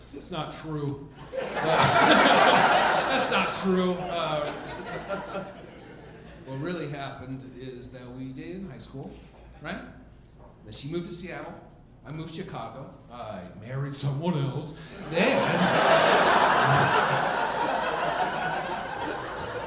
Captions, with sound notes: That's not true. (audience laughing) That's not true. What really happened is that we dated in high school, right. Then she moved to Seattle, I moved to Chicago. I married someone else. (audience laughing) Then, move back to Nebraska, started dating again.